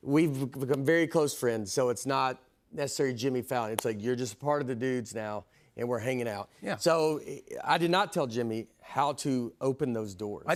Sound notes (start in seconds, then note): none